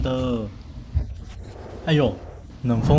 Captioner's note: windy